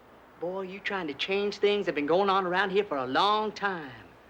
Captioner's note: none